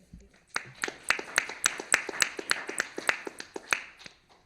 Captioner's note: applause